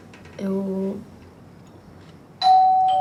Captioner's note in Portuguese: Campainha